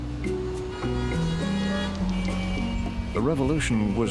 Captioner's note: cars honking